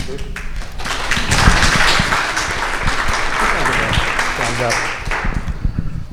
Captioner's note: audience applauding